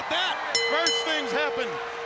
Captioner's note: bell ringing